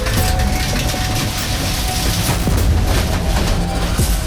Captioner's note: car crashing